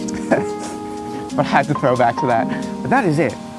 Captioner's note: laughs; gentle music